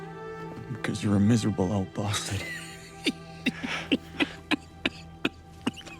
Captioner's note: laughter